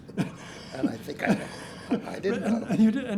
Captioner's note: laughs